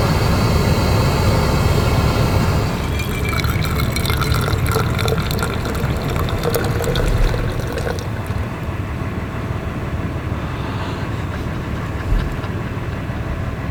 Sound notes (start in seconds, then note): 2.7 coffee dribbling; 10.7 laughing